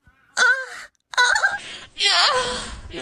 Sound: anime feminine moans

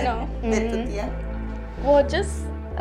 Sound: Eileen's grandma speaks in foreign language

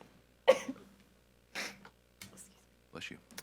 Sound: sneezes

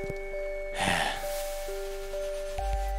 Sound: sigh

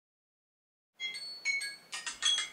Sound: alarm

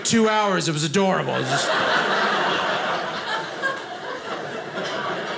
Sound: audience laughing

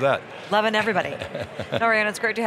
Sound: laughing

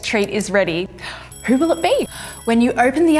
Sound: timer ringing

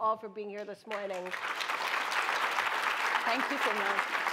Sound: applause

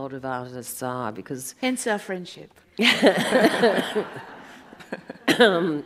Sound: audience laughs

